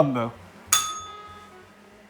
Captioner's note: bell rings